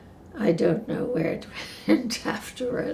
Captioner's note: none